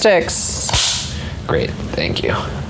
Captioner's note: clapper claps